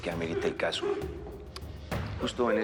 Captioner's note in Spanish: Sollozos